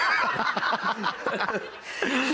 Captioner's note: laughing